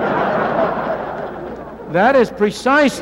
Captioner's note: laughter